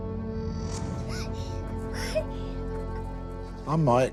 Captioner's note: laughing